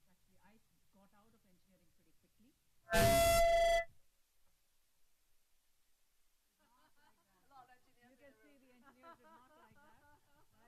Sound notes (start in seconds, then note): 2.9 mic feedback; 6.5 laughing